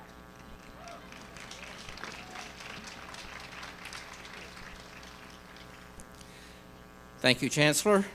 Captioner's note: applause